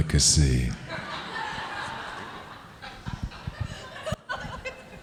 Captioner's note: audience laughing